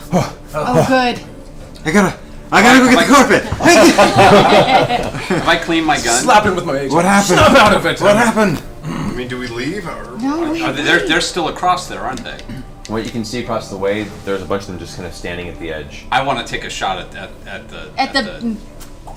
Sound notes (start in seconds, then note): 3.5 all laugh